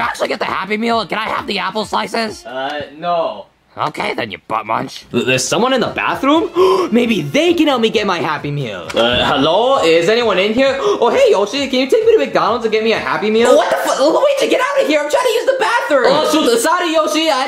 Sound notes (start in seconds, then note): 6.4 gasps